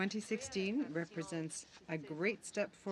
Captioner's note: speaking French